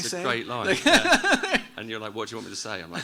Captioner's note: laughs